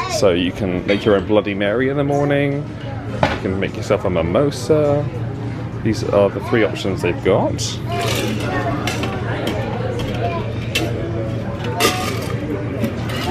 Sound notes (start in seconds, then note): 8.2 ice clinks